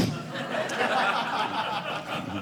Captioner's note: audience laughing